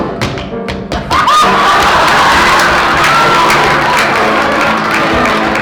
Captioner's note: tap dancing and neighing